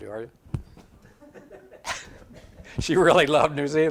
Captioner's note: audience laughs